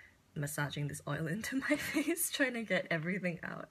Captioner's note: laughs